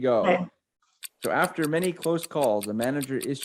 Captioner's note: timer ticking